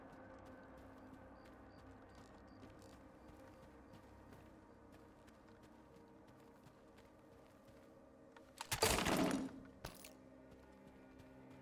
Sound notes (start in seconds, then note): 8.6 gun firing